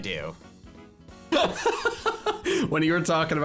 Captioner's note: laughing